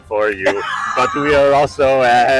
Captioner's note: laughing